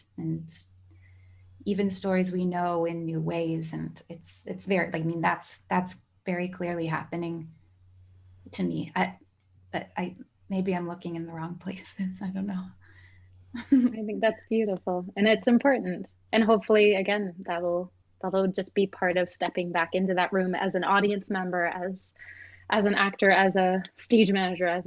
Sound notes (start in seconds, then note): 13.3 laughs